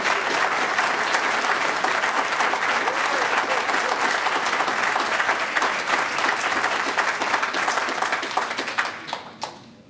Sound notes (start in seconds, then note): 1.5 applause